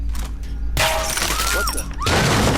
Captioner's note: bullet clangs; chain rattles; assassin screaming